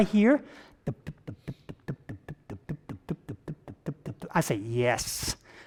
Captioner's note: vocalizing rapid thumping